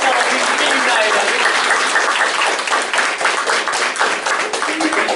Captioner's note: applause